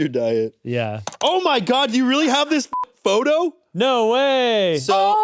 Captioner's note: beep